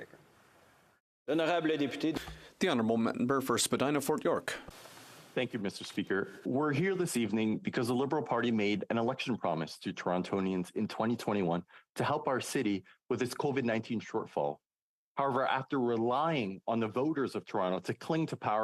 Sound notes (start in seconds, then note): 5.8 speaking French